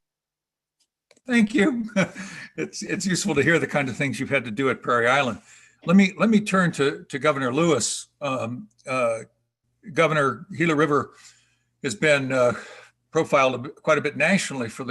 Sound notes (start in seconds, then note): 2.3 laughs